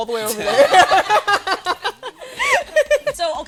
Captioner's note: laughter